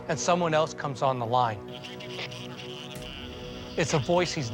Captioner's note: on phone